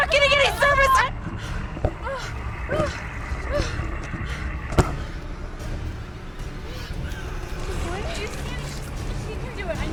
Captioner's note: breathing heavily